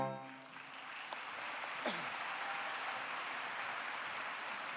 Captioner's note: audience clapping